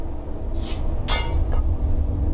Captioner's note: clonk